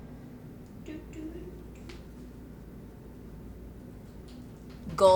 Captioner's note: indistinct humming